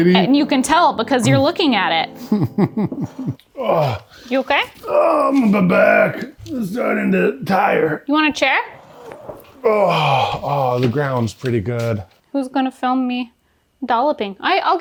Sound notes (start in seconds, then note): 2.2 laughing; 3.5 grunting